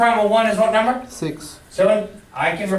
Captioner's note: voiceover